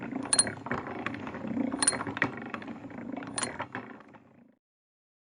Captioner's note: lion roring; gears turning